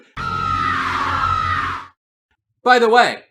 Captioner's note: screams in Edenian